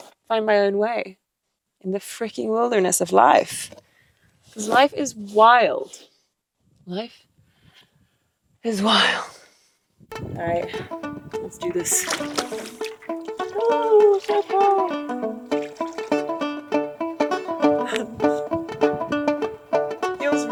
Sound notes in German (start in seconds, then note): 11.5 Wasser plätschert; 15.4 sanfte Instrumentalmusik geht weiter